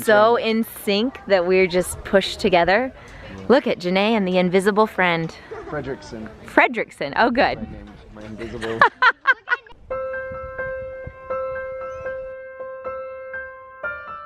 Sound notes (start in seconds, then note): 5.4 kid giggling; 8.4 laughing; 9.9 gentle music